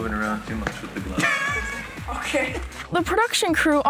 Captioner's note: laughs